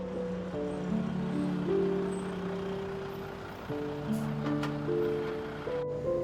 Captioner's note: somber music; truck engine rumbling